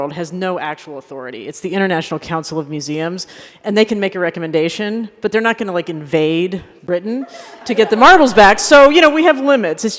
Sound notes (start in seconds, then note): 7.2 laughter